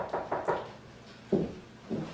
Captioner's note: knocking